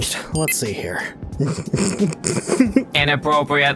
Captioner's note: quiet chuckling